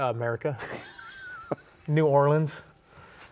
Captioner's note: laughs